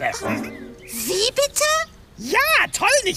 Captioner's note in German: erschrocken